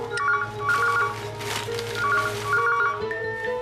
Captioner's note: phone Rings